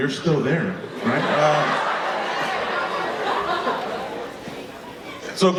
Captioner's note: audience laughing